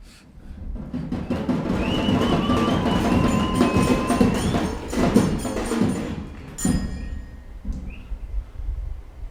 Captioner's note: celebration happening